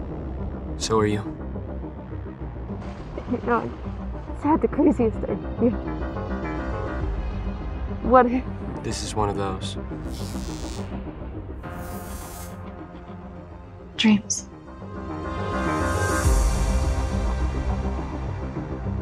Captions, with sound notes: So are you. You know, I just had the craziest idea. What if... this is one of those.... [time travel sounds] Dreams. [dreamy electronic music]